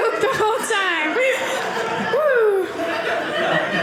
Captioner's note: audience laughing